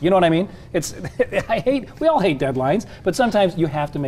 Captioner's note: laughs